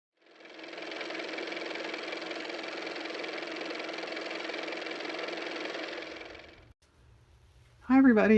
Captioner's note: car motor